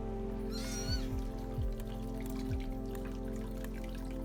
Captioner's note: kitten squealing